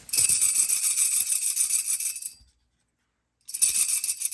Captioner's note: bells jingle